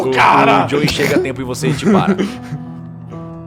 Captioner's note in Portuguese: Risadas